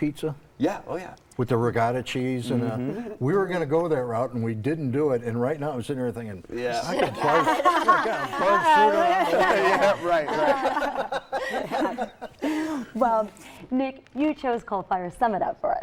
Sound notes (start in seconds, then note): 6.9 laughing